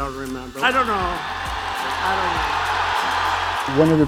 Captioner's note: crowd cheering